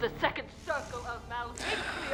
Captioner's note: sighs